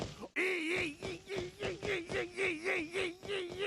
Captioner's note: yelping